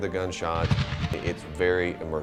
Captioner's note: explosive boom